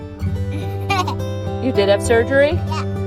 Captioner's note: laughs